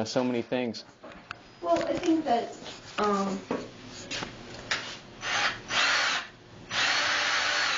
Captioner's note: sound of drill